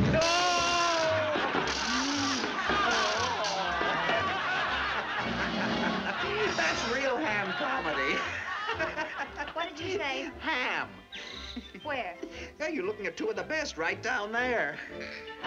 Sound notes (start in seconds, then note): 1.0 audience laughing